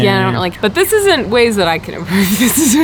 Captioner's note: chuckles